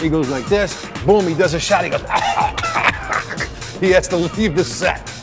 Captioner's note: coughing